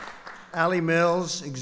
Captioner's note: applause